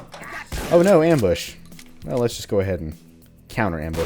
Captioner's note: sarcastically